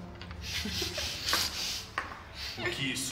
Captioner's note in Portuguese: risadas